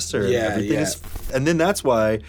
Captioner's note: static